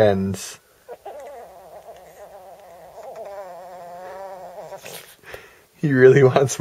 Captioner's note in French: Chien qui gémit